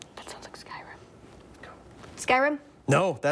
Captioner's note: whispering